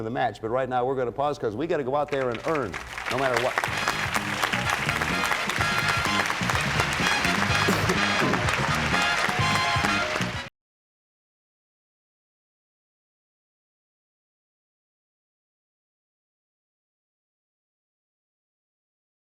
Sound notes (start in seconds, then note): 2.3 cheers and applause; 3.5 theme music playing